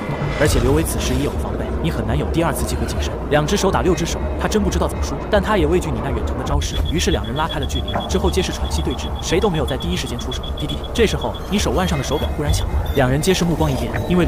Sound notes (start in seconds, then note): 10.6 beep!